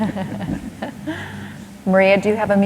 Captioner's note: laughter